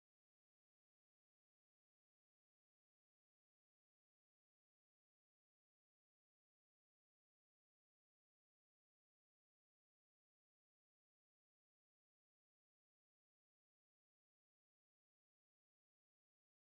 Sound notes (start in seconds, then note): none